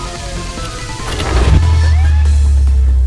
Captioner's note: door opens